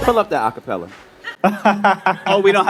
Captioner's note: laughing